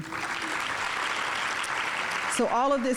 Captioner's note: audience applauding